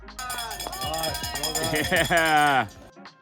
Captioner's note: bell ringing